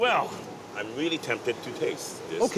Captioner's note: sifu speaks Chinese